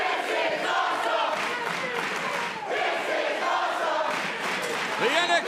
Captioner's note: fans chanting